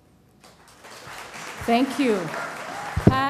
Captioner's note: crowd applauding and cheering